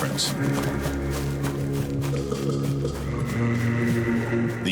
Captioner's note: grass rustling